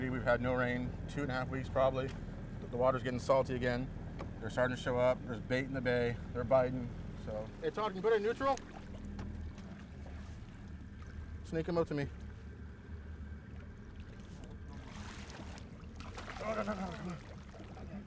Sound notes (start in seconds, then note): 14.5 boat enging idling; 16.0 fish splashing